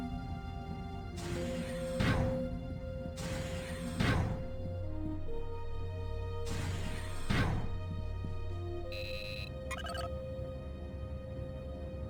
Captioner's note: beeps